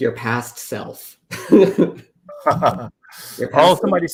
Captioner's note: laughter